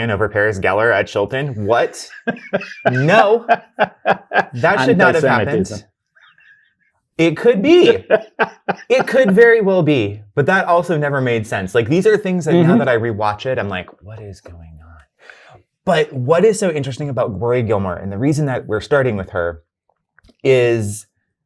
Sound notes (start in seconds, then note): 4.9 laughs